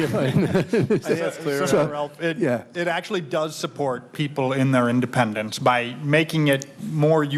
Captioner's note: laughter